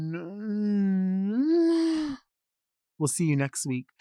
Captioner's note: moans